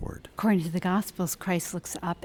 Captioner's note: voiceover